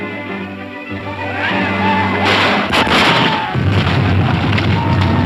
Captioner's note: men shouting; guns firing; cows stampeding